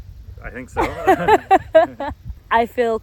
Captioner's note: they both laugh